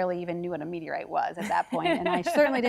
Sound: laughs

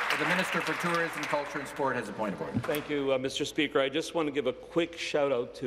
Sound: applause

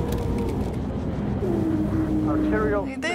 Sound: moaning

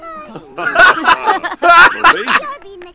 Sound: Virtual Bunny laughes

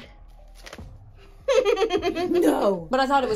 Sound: evil laughs

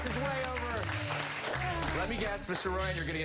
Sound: applause

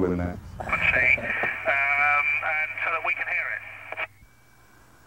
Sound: radio transmission

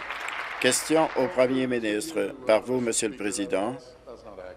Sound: applause

